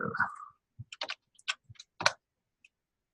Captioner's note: typing on keyboard